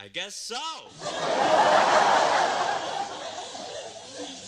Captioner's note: laughter